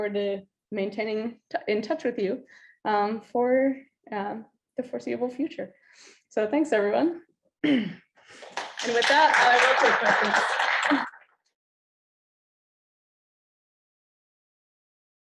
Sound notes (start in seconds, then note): 8.4 audience applauds